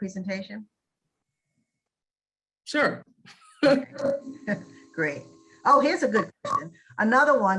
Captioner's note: audio cuts out